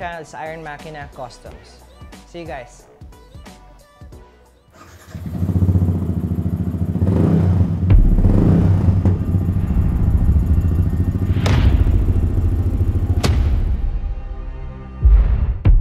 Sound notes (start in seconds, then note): 4.7 engine revving; 7.3 thudding music